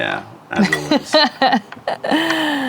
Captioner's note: laughter